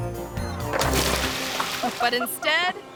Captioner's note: water splashes